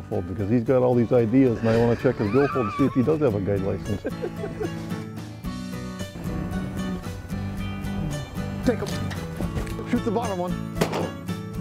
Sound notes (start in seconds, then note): 3.7 laughter; 10.7 gun shot